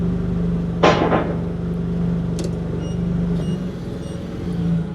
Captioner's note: whirring continues